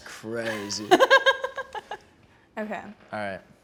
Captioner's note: laughs